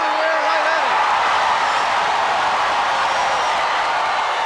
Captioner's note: crowd cheer